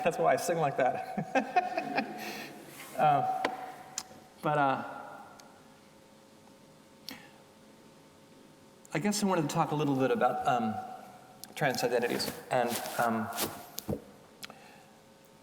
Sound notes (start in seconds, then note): 1.2 audience chuckling